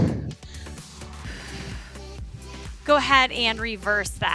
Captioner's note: exhales